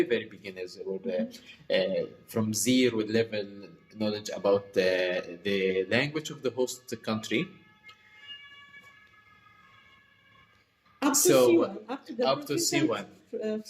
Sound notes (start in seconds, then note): 8.4 siren sound